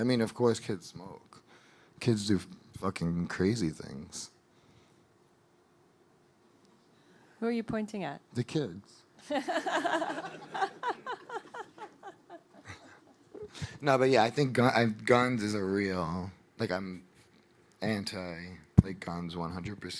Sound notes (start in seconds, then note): 9.3 audience laughing